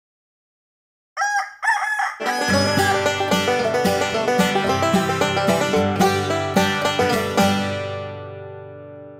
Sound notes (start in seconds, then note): 1.1 rooster crows; 2.2 banjo plays